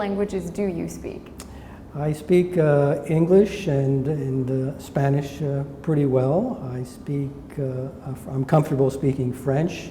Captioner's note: smacks lips